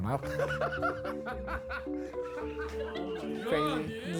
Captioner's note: laughing